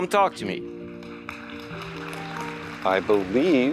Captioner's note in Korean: 박수 소리